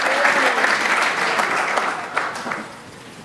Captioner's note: applause